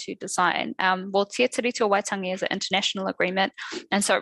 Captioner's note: non-english speech